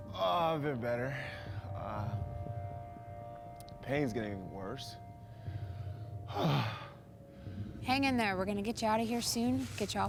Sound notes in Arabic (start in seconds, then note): 5.3 تنهدات